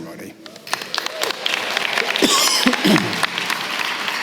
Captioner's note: applause